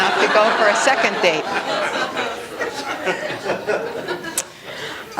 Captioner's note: laughter